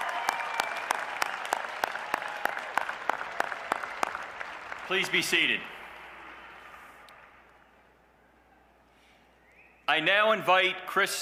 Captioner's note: cheers and applause